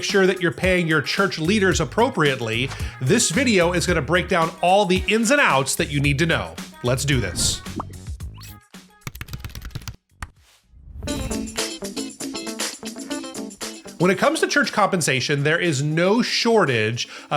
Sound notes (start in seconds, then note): 9.1 keyboard clacking; 11.0 upbeat music